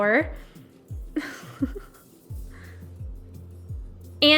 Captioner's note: laughs